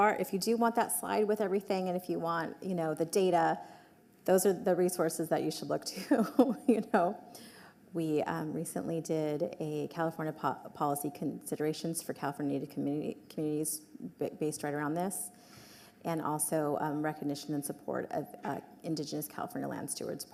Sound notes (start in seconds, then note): 6.2 laughs